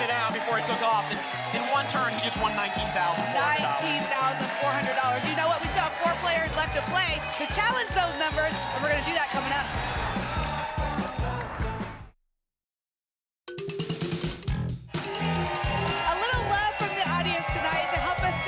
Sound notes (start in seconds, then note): 14.9 applause and cheering